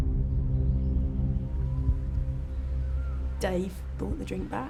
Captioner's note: birds chirping